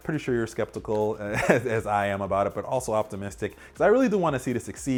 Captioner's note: chuckling